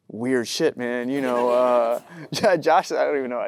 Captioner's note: audience laughing